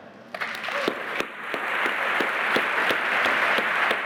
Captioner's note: applause